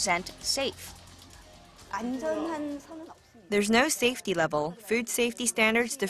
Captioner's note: Korean